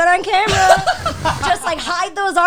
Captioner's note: guys laughing